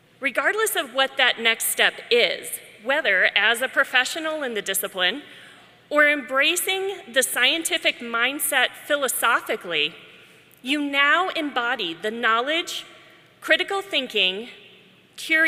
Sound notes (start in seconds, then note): none